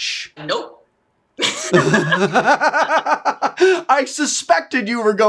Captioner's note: laughing